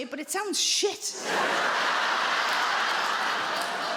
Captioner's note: audience laughs